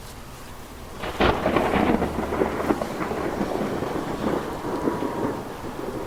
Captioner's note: thunder cracks